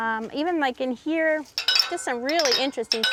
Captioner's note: metal ribs chime